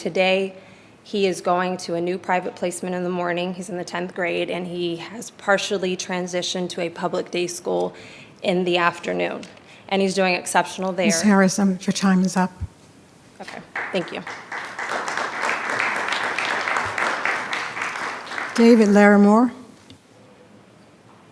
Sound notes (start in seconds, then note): 13.4 attendees clapping